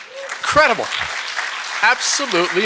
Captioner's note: applause